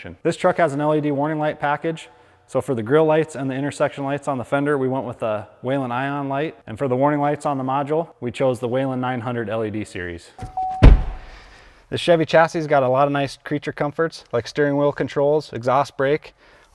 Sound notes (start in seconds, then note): 10.4 ambulance door slams; 10.4 ambulance dings